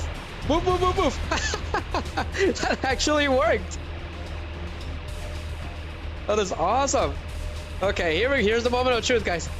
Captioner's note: laughter